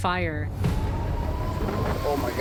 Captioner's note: siren wailing